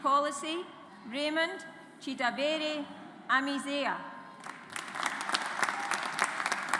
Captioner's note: audience applauds